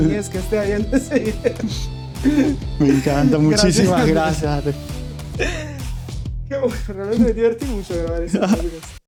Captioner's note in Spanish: risas